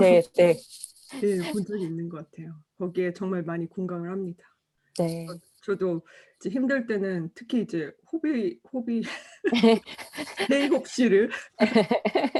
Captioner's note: laughs